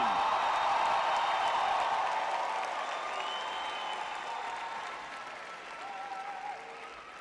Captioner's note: cheering